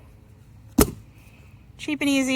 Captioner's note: rocket pops